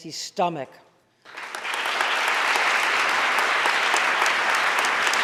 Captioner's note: audience applauding